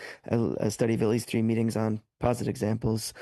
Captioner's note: speaking French